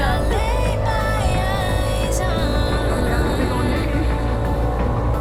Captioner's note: laughs; boat motor